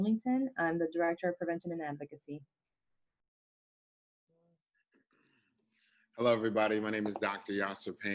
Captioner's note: speaking Spanish